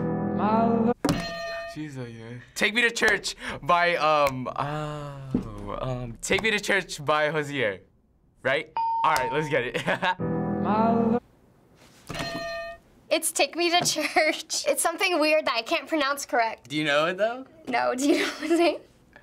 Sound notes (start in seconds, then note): 1.2 hitting bell; 1.8 mumbling lyrics; 8.4 ding; 12.2 hitting bell